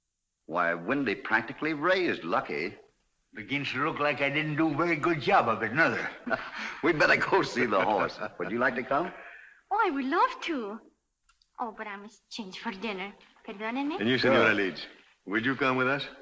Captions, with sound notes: Windy practically raised Lucky. Begins to look like I didn't do a very good job. [ CHUCKLING ] We'd better go see the horse, would you like to come? I would love to, but I must change for dinner. [ IN SPANISH ] Excuse me. And you, señora Leeds, would you come with us?